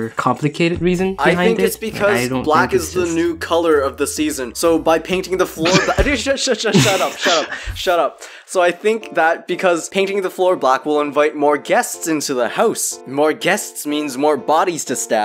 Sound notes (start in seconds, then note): 6.7 pff